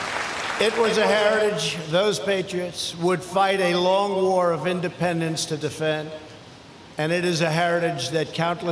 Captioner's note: applause